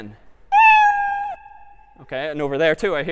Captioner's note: meow